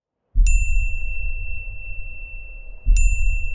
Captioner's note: bell chiming